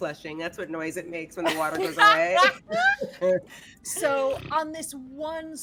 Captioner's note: blows raspberry